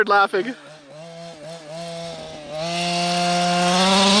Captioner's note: engine roaring